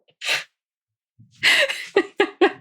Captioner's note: laughs